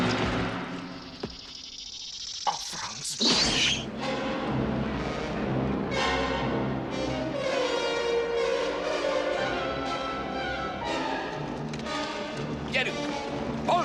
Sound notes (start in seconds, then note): 1.8 hissing continues